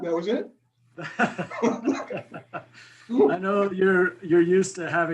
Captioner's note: laughs